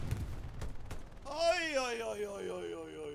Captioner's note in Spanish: imita disparos